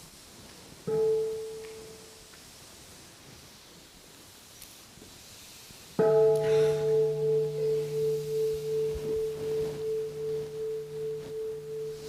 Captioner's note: the sound of the bell